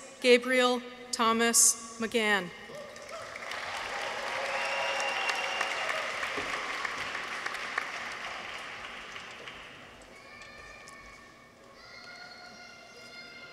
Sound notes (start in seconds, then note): 2.7 people cheer; 2.8 audience applauds